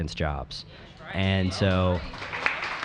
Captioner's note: applause